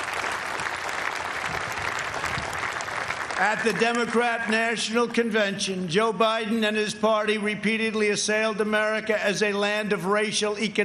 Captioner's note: applause